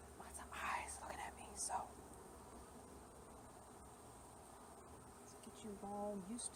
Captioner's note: whispery